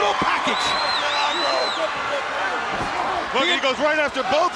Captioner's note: wrestlers yelling